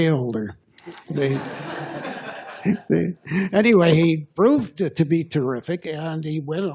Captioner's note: laughter